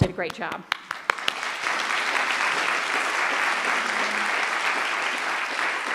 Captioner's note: applause